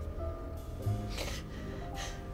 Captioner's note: sniffles